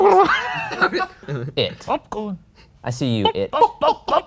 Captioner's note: making spooky clown noises; laughs